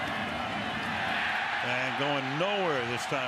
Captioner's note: cheering